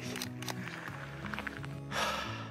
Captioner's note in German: Seufzen